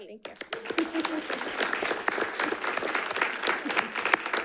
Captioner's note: all applauding